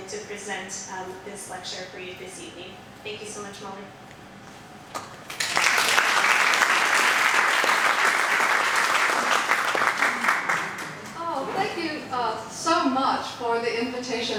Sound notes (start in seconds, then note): 5.3 audience applauding